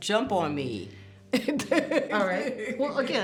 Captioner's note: woman laughs